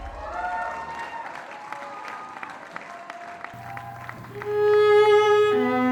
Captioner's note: applause